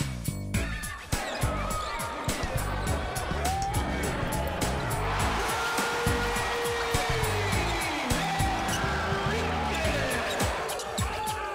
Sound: cheers

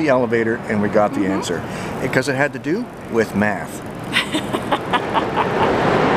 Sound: laughter

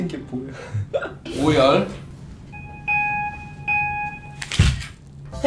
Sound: they say sobbing

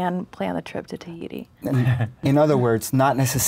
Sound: laughs

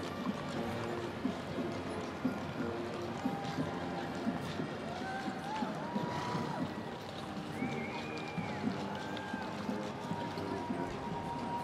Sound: cheering and Applause

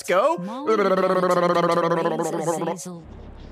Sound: motorboat noises

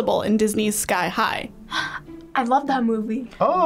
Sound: gasping

